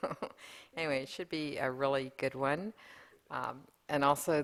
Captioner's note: laughter